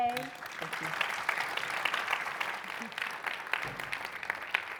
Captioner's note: audience applauding